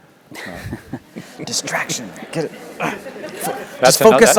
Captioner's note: laugh